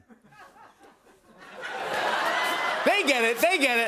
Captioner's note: laughter